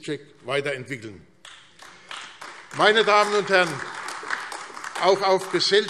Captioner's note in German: Beifall AfD